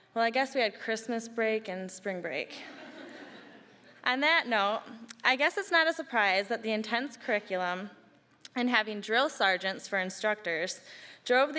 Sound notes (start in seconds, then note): 2.6 audience laughing